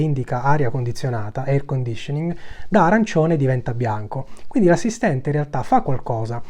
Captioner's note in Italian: air conditioning